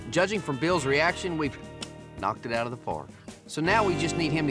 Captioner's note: imitates baseball hit